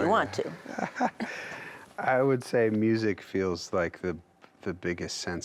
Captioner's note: laughs